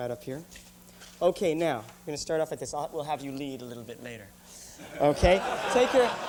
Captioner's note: laughter